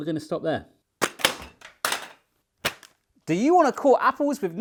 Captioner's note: package smacking on floor